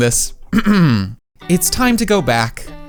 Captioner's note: clears throat